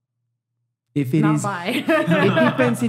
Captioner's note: laughs